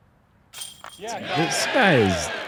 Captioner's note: cheering